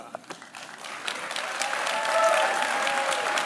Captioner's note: applause